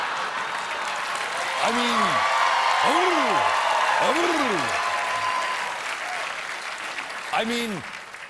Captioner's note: laughter